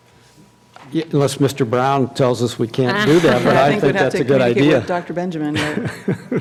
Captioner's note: laughter